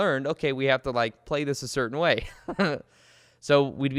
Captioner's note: chuckles